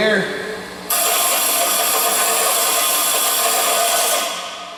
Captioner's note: loud grinding